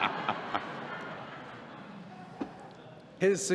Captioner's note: laughter